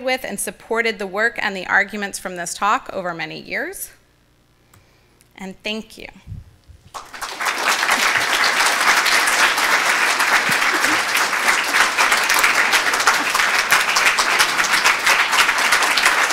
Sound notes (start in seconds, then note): 7.1 audience applauding